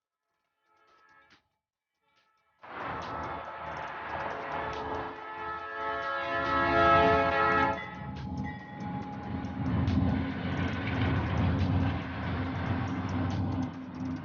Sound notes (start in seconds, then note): 6.0 train horn blows; 8.2 upbeat techno music